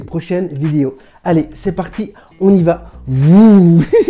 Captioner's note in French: rires